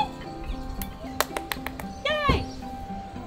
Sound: clapping

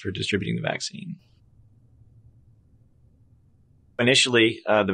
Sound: silence

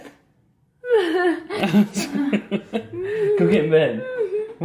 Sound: laughs

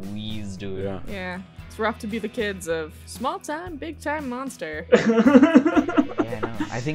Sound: laughter

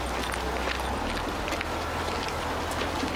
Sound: none

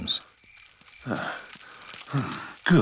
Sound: panting

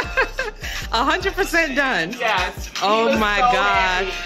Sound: laughs

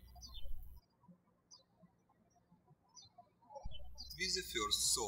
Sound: birds chirping

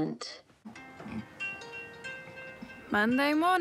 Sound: phone rings

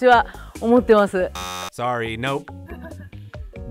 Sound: buzzer buzzing

